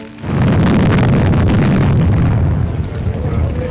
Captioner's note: flames roaring